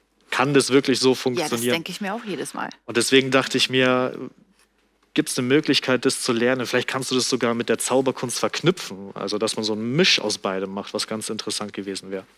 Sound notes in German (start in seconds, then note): none